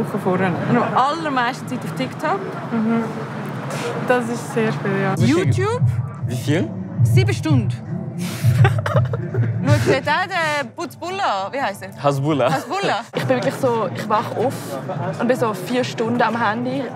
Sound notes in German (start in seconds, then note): 8.3 lacht